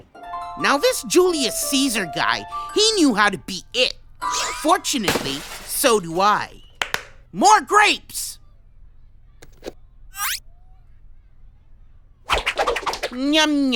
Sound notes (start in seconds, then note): 6.7 claps